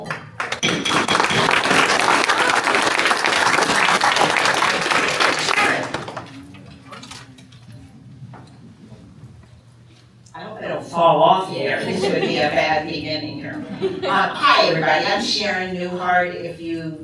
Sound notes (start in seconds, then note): 1.8 applause